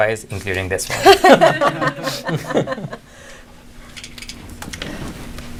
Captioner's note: laughing